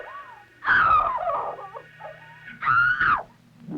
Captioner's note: sobbing